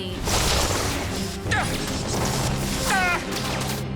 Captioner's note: voldemort grunting